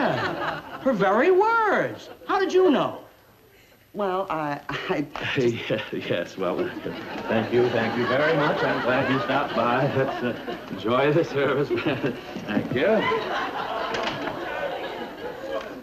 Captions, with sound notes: - Yeah, her very words. How did you know? - Well, I (stuttering) - Well, thank you, thank you very much. Enjoy the service, thank you very much.